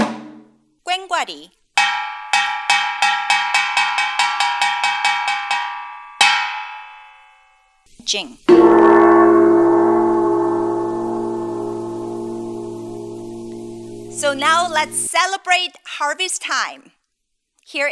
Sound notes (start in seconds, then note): 2.2 drum beating; 8.5 gong chiming